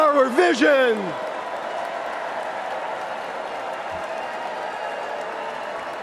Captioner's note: cheers and applause